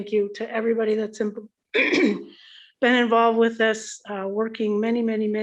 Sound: clears throat

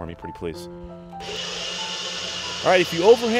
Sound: whirring

